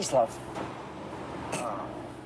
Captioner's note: groans